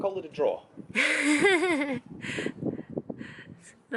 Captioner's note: laughter